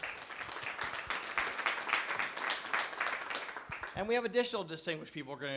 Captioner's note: clapping